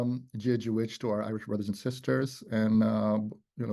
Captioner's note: speaks in Irish